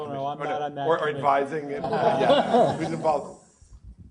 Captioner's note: laugh